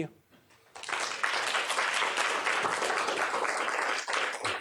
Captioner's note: applause